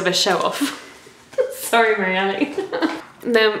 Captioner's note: laughing